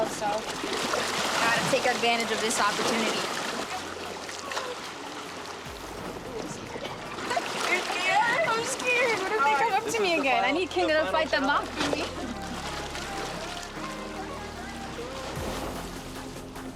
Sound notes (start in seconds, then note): 3.5 water splattering; 13.3 upbeat music